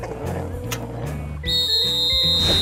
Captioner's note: whistle blows